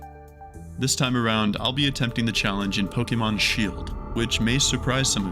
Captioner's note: voice begins fading while an ominous tone grows